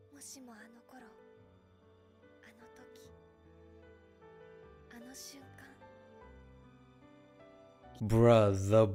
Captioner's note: Speaking Japanese